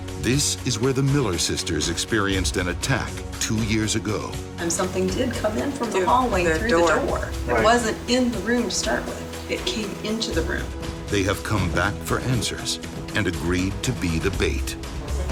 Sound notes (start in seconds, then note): 11.1 voiceover